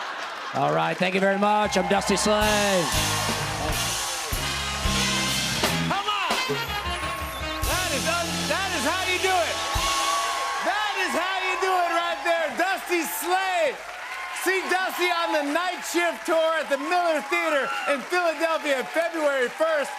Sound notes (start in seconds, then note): 3.4 cheers and applause